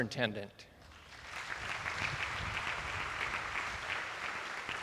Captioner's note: attendees applauding